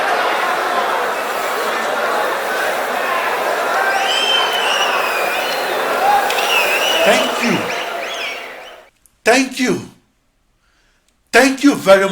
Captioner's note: wild applause and cheering for 22 seconds